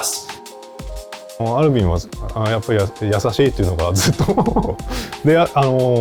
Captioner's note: laughs